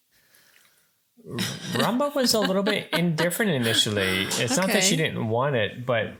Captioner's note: laughing